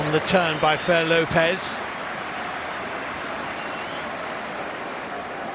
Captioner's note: audience oohs